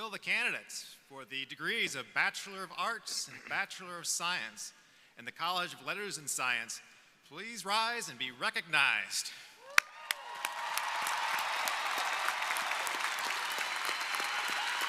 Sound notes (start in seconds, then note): 9.6 crowd cheering; 9.7 crowd applauding